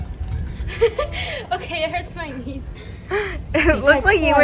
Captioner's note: laugh